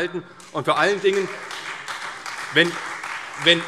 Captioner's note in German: Beifall CDU und Freie Demokraten